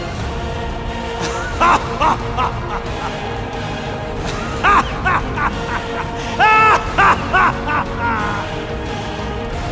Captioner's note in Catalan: rialles